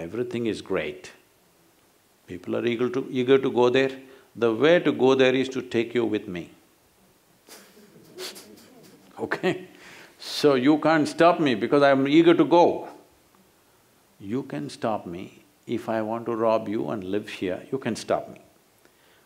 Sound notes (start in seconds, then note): 7.4 laughter